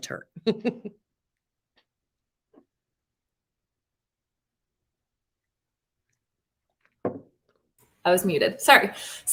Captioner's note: laughter